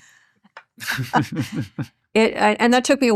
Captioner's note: chuckles